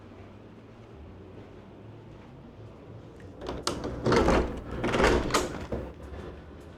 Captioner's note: door creaks